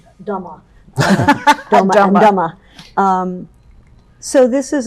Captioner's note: laughs